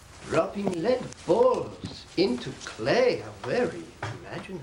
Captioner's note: <i> sarcastically</i>